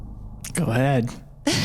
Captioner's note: laughs